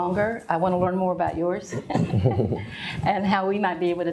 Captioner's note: laughs